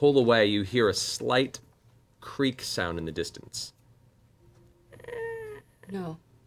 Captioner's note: creaking